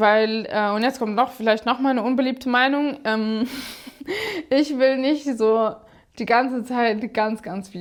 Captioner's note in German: gelächter